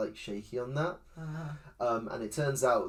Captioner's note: confusion noises